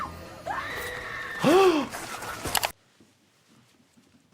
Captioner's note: victim screaming